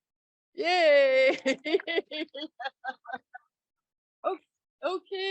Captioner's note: laughs